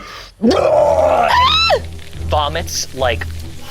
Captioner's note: vomits; grumbling; squeals